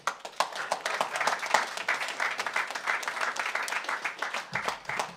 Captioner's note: audience applauds